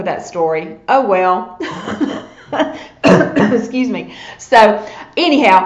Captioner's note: coughs